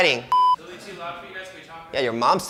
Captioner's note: beeping